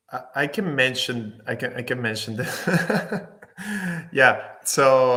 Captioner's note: laughs